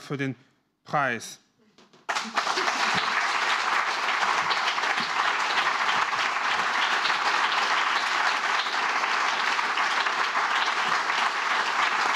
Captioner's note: applause